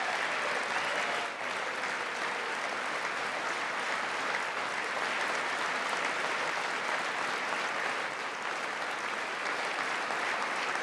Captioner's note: applause